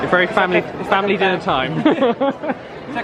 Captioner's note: both laugh